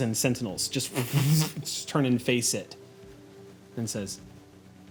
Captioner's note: whooshing